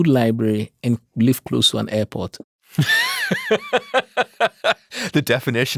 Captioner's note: laugh